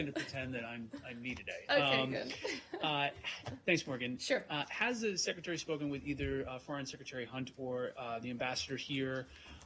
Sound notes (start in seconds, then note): 2.2 laughter